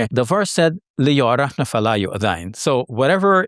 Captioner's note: speaks Arabic